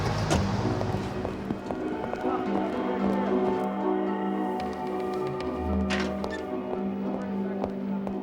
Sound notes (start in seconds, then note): 0.0 door closes; 2.1 footsteps